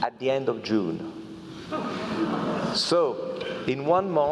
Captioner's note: laugh